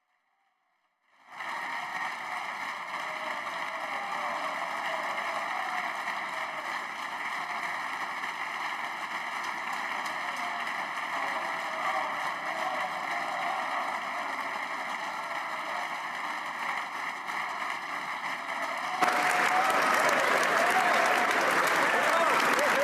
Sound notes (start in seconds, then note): 5.1 applause